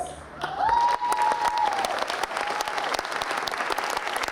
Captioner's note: crowd cheering